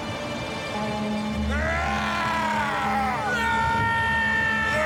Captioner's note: triumphant yelling